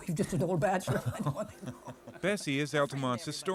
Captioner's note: chuckling